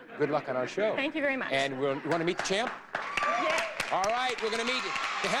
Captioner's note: audience applauding